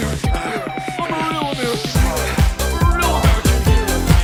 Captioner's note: moaning